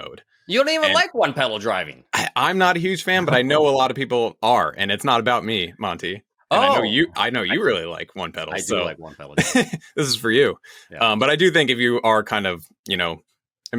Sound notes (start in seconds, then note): 9.1 laughs